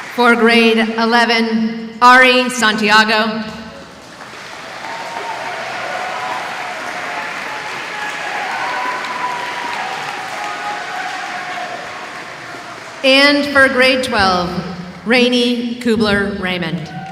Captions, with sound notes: For grade 11, Ari Santiago. [ Applause ] And for grade 12, Rainey Kubler-Raymond.